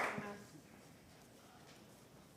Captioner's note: applause